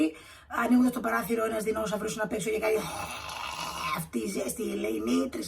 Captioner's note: growls